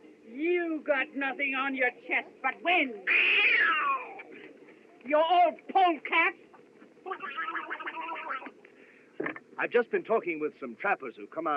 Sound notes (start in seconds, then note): 3.0 imitates Cat Screeching; 7.0 windy Quacking